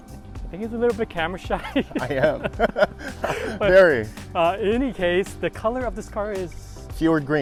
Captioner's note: laughing